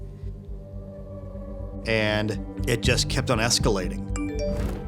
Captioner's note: chime